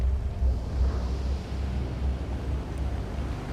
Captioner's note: wind blowing